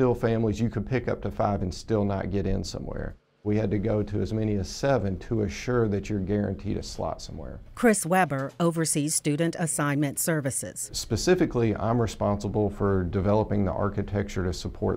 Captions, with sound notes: and still not get in somewhere. We had to go to as many as seven to assure that you're guaranteed a slot somewhere. - [Voiceover] Chris Weber oversees student assignment services. - Specifically, I'm responsible for developing the architecture to support the school choice process.